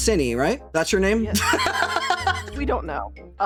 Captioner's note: laughing